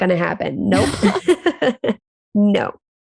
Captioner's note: both laugh